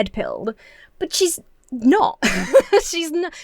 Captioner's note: laughs